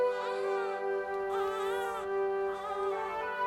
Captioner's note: infant crying